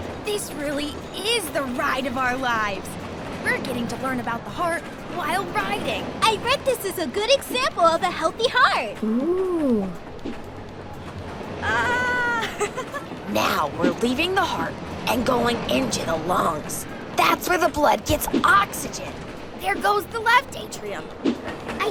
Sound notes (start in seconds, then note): 11.6 laughs